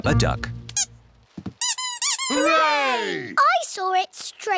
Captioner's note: duck squeaks